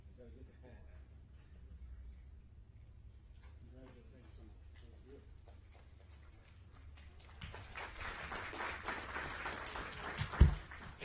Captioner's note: applause